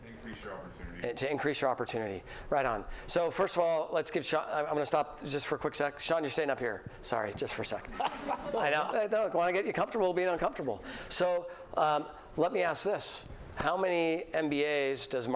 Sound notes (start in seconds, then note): 7.9 laughter